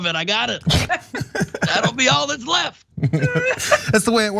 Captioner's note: laugh